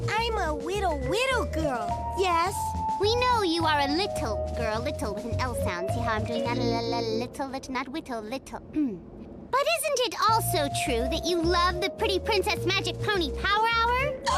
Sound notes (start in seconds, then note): 8.7 clears throat